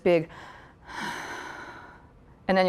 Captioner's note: sighing